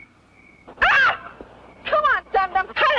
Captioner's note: screams